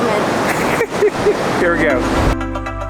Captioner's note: laughs